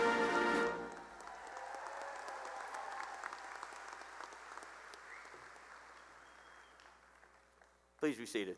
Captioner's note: cheering and applause